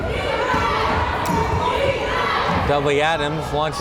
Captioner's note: crowd chanting defense